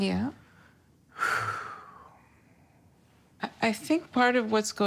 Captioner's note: heavy breath